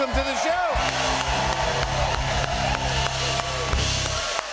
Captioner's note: cheers and applause